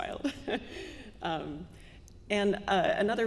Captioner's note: chuckling